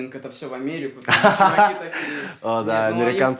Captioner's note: laughs